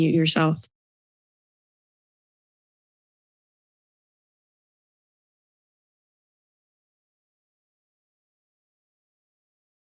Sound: silence

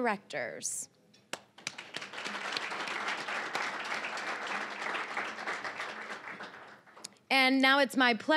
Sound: applause

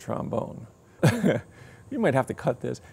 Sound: chuckling

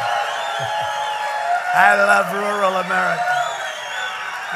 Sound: applause

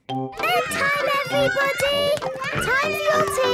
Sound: children playing

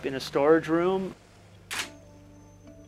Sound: camera flashes

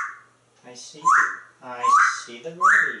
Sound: whistle

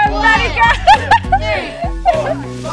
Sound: girl laughing

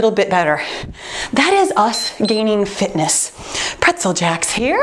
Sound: timer beeps

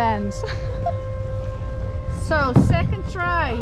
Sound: chuckles

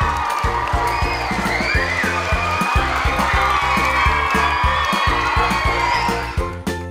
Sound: crowd continues cheering, applauding

